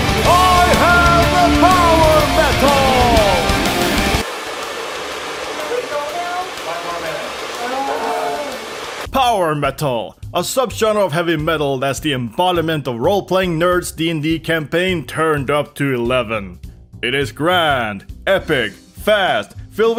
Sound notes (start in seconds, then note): 4.1 sounds of hair drier and despair